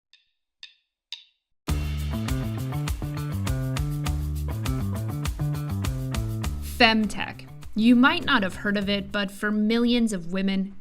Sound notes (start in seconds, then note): 1.1 drumsticks clacking; 1.6 upbeat music